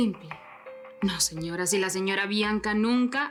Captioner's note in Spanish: none